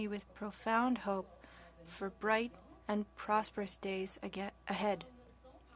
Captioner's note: speaking French